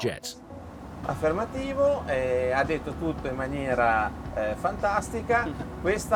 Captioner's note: speaking in foreign language